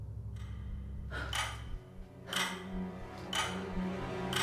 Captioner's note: clock ticking